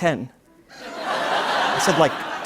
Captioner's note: laughter